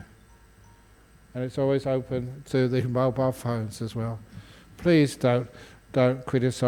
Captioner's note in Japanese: 携帯の音